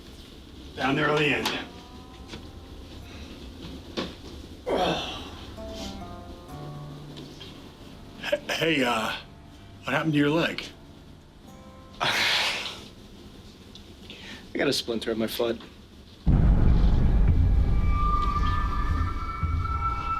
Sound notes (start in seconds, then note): 4.6 Scott groans; 11.9 scoffs; 16.2 tense menacing music